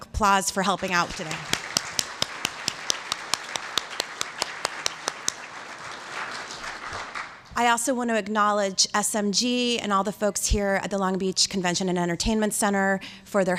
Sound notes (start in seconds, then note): 0.7 applause